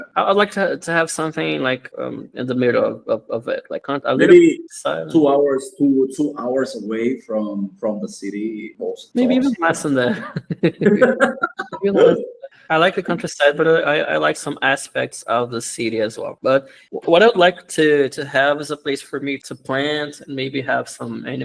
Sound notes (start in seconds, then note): 10.0 laughs